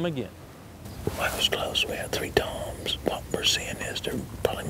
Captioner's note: whispering